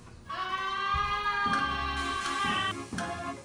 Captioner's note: screaming